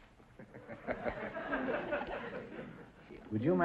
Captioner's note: laughing